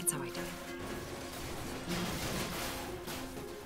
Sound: objects crashing

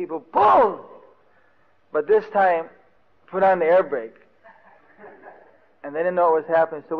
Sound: laughter

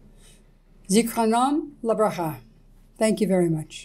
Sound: speaks in Hebrew

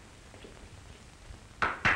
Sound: clap

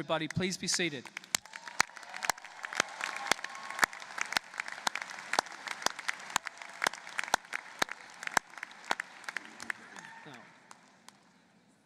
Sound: applause

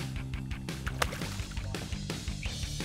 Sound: fish splashing

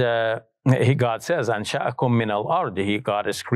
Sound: speaks in Arabic

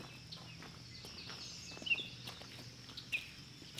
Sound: footsteps

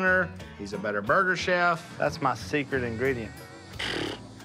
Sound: flaps lips

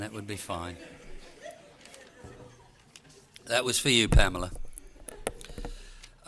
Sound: laughter

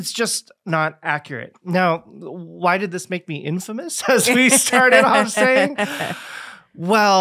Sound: both laughing

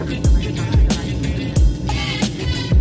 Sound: none

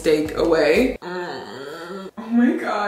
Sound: whining

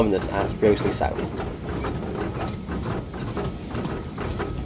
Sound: click-clack of track

